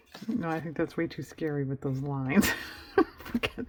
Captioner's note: laughs